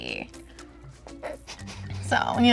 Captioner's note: muffled laughter